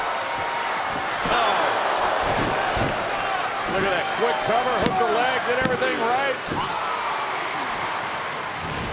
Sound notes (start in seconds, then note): 2.0 body thudding; 5.5 hands thudding